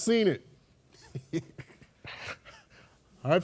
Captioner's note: laughs softly